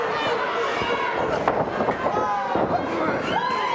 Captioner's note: audience barks